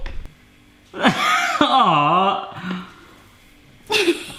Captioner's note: laughing